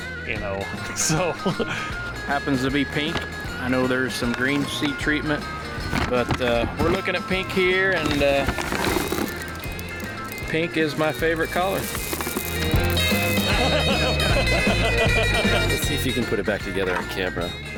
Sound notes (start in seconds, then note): 0.9 laughing; 13.2 laughing